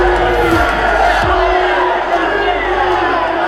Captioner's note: group booing